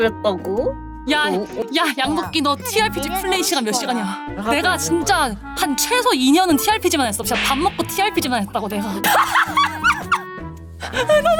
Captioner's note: laughter